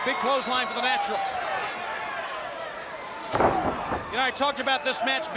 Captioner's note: crowd chatter